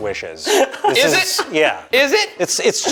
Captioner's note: laughing